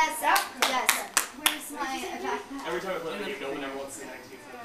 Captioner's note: group chattering